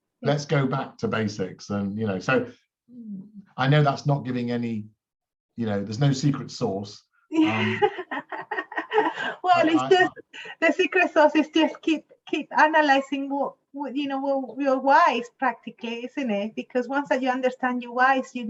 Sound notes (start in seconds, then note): 7.3 laughs